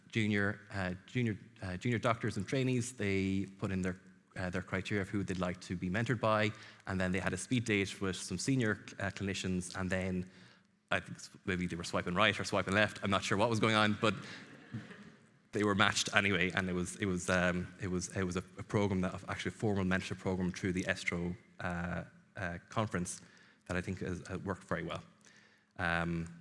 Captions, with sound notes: junior, uh, junior, uh, junior doctors and trainees, they put in their, uh, their criteria of who they'd like to be mentored by, and then they had a speed date with some senior, uh, clinicians, and then, I think maybe they were swiping right or swiping left, I'm not sure what was going on, but- [audience chuckling]... they were matched anyway, and it was, it was, um, it was, it was a, a program that of actually a formal mentorship program through the ESTRO, uh, uh, conference that I think has, uh, worked very well. Um,